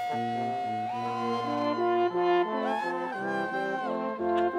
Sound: students cheering

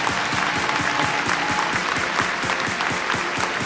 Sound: applause

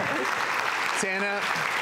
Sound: crowd cheers

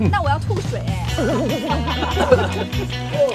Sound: haha

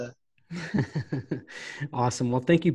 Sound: laughing

